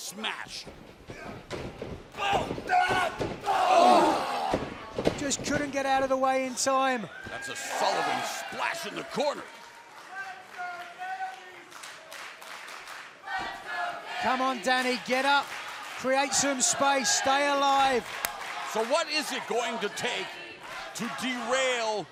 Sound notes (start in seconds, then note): 12.1 crowd cheering